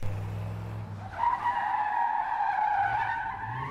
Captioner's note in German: Quietschende Reifen